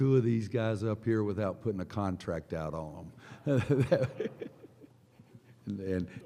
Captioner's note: laughter